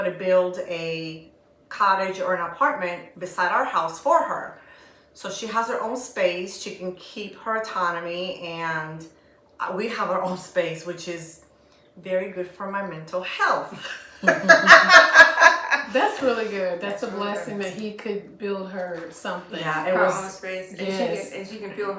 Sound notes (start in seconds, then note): 13.7 laughter